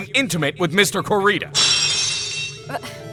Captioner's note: lock shatters!